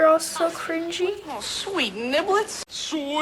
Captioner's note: Jackson, whining